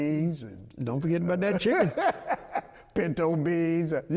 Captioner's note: laughing